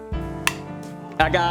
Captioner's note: smack!